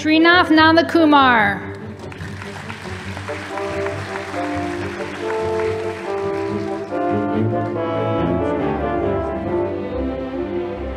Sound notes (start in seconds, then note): 1.8 audience applauding